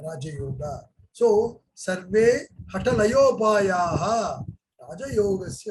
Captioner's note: speaks in Hindi